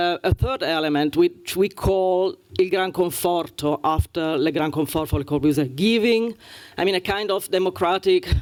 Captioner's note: italian